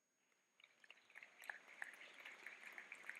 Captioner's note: clapping